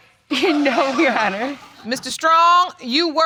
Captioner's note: audience laughing